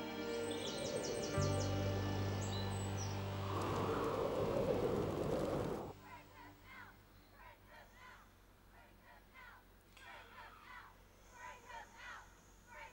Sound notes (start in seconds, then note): 0.3 wind howling; 6.2 crowd